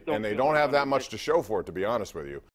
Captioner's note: coughing